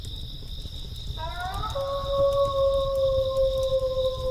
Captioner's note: wolf howling